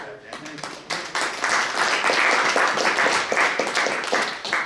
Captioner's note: applause